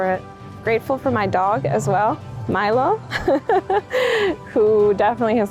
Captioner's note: chuckles